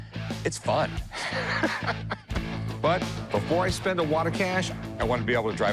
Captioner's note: laughs